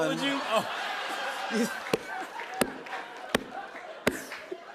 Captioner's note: laughter